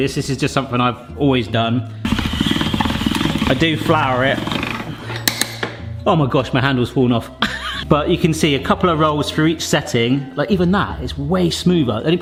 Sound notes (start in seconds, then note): 2.0 pasta machine cranking; 7.4 laughing